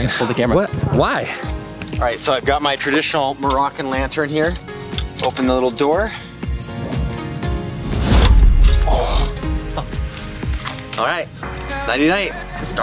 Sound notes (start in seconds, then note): 7.4 whooshing